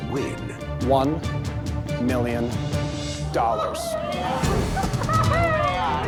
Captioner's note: contestants exclaiming